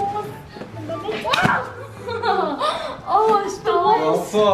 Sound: laughs

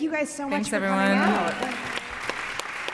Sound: applause

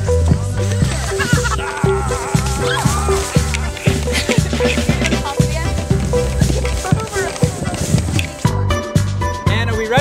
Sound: people___runnin g___and___laughing

